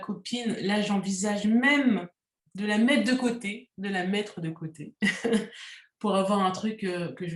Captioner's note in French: rires